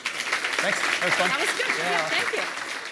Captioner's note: applause